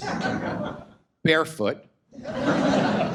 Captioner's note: audience laughs